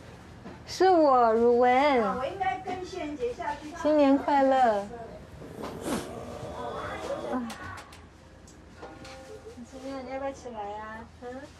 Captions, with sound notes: It's me Ru Wen. [speaking in foreign language]